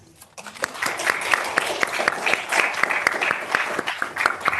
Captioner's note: audience applauds